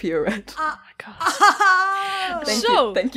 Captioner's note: whispering; laughs